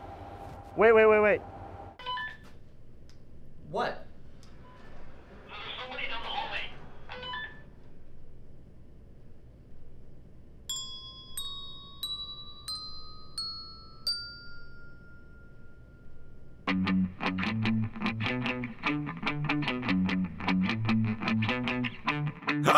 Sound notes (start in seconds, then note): 10.7 dings; 16.6 rock guitar music; 22.5 loud gasp